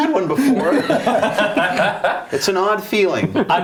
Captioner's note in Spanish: risas